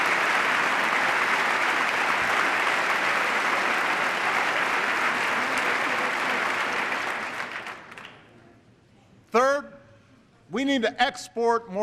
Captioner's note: applause